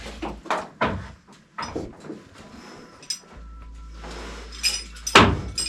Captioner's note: thumping and banging; metal clanking